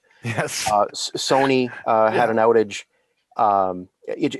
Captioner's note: chuckles